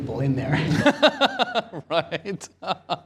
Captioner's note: laughter